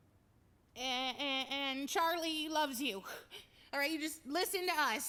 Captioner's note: stuttering